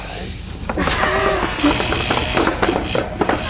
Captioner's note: ominous music; sinister laughing; suspenseful music